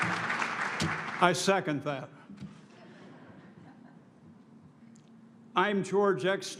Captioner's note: applause